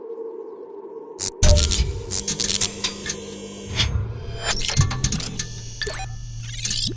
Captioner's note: electricity buzzes; machines clanking; electricity buzzes; electronics ringing